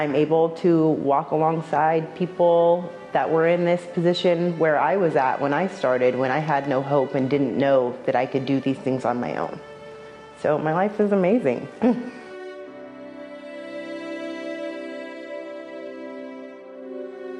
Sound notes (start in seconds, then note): 15.4 laughs